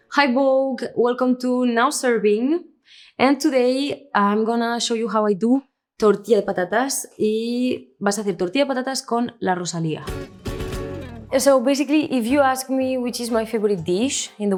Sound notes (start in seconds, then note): 6.1 speaks in Spanish